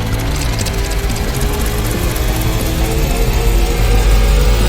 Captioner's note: wind whooshing